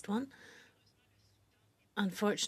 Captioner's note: speaking French